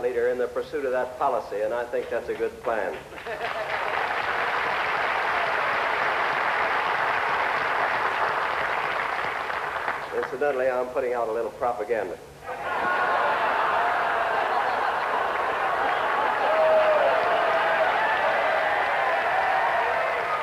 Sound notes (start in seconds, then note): 2.0 applause; 12.6 laughter